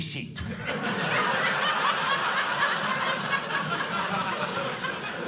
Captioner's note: audience laughing